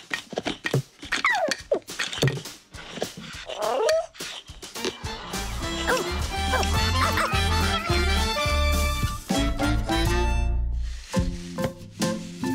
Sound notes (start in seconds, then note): 1.2 jazzy beat; 6.5 barking; 8.4 whimsical music